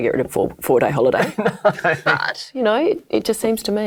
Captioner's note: male panelist laughs